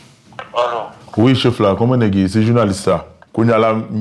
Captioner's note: French spoken audio